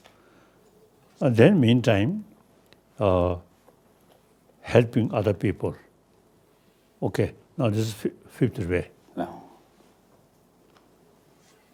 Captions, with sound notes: and then meantime helping other people, okay, now this is (murmurs). - No.